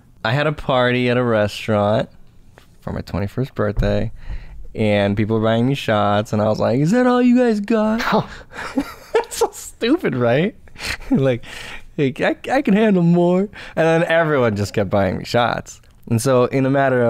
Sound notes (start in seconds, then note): 8.5 laughter